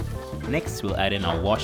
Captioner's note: voiceover